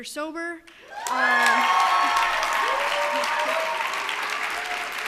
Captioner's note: cheers and applause